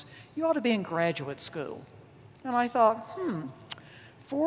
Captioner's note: none